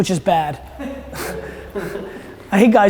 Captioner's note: laughter